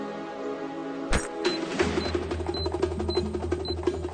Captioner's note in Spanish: Pitidos